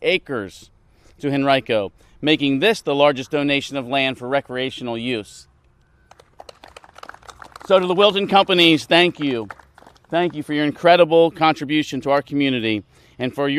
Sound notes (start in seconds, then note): 6.0 applause